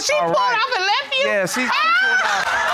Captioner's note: laughs